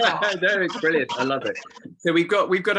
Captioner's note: chuckles